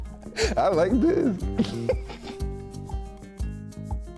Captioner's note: laughs